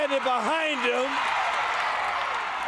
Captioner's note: crowd cheering